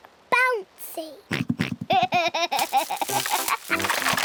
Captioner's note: oinks and giggles